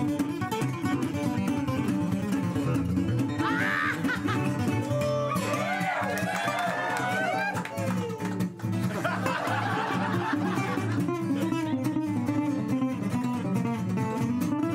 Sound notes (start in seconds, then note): 3.4 screeching